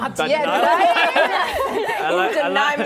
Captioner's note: laughter